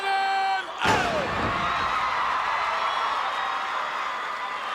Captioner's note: crowd cheering